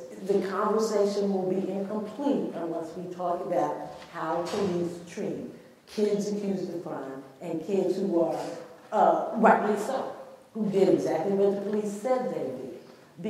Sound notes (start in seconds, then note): none